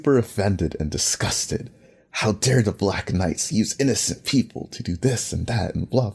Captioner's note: mocking Suzaku